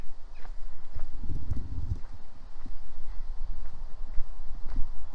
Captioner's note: footsteps